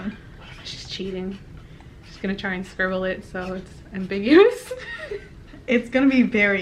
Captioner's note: snickers